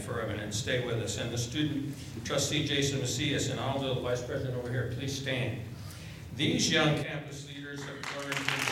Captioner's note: applause